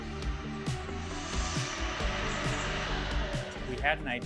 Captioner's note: saw Noises